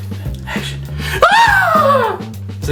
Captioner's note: Sherman screaming